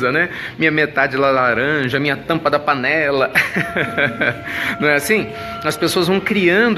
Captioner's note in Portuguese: risos